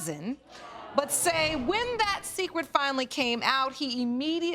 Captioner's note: audience exclaiming